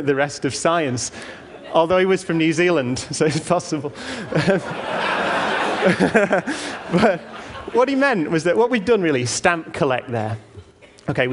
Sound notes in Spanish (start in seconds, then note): 4.2 Risas